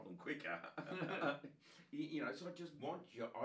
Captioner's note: both laughing